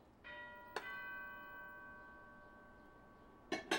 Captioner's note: doorbell ringing